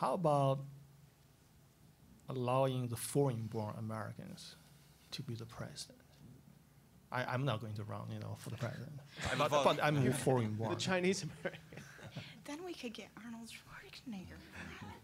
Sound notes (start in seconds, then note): 11.1 all laughing; 14.5 audience laughing